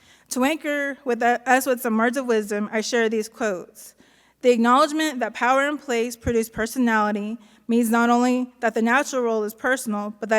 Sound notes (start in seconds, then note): none